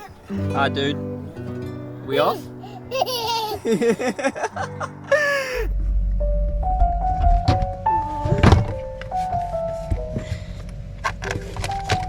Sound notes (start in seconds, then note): 2.8 laughing